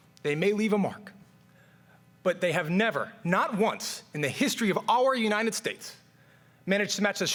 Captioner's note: none